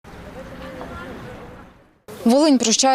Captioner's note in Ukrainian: Голоси людей